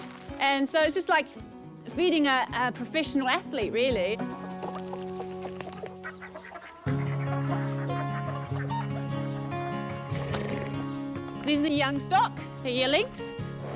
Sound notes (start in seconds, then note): 4.1 chicken clucks; 6.0 gentle music; 9.9 snorts